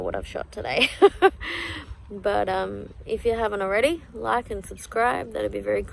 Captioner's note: laughs